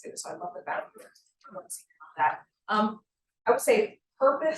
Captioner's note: sound distorted